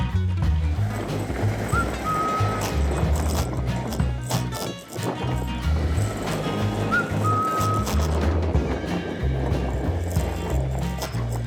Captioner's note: bicycle tires riding on road; upbeat music